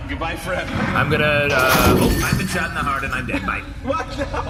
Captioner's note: gunshot; laughing